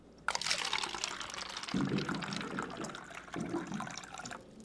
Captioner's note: liquid trickling